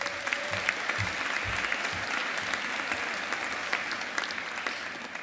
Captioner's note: audience applauding